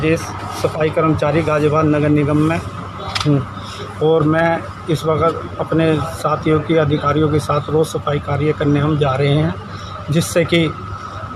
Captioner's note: speaks in Hindi – not transcribed